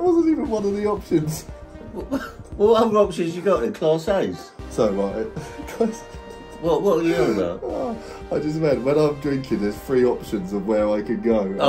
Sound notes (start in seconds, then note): 5.3 laughing